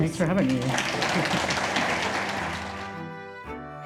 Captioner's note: audience applauds; chuckles; gentle orchestral music